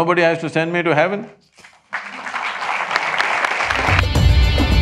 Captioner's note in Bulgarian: аплодисменти